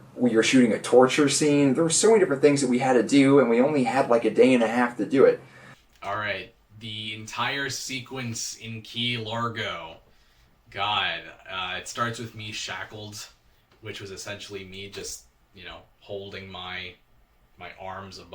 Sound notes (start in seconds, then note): none